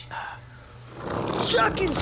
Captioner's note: Flix’s chair rolls across the floor